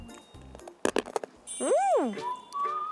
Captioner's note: crunch of star candy